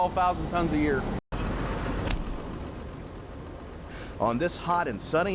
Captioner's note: engine rumbling